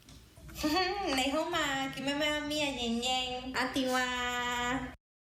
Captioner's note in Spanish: Habla chino en el video